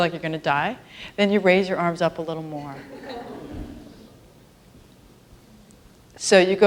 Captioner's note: laughter